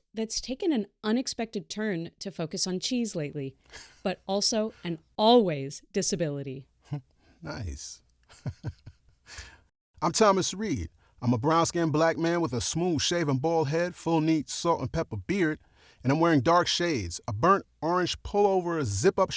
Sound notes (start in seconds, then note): 3.8 laughs; 8.3 chuckles